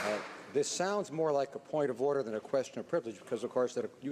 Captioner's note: some Applause